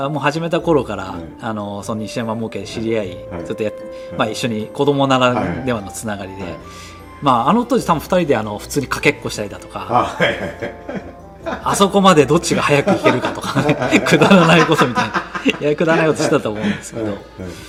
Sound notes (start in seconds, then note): 13.3 laughs